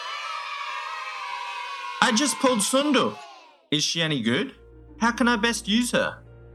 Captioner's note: cheer